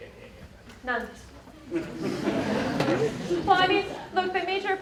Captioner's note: laughter